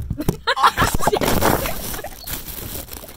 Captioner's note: laughter